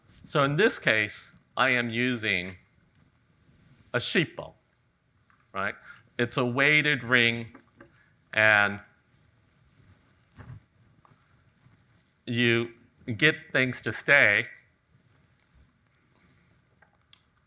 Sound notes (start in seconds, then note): none